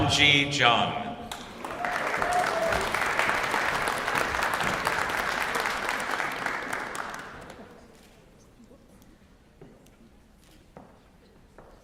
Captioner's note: applause